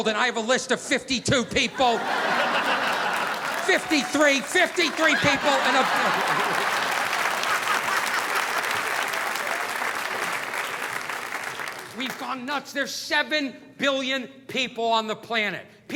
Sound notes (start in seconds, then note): 6.8 audience applauding; 6.8 audience laughing